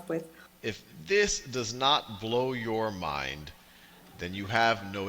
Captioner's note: voiceover